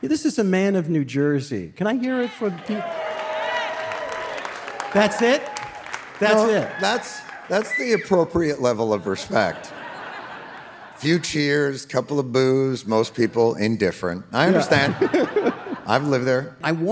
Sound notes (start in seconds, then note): 2.2 few audience member cheering